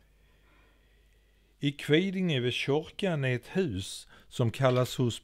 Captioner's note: in dialect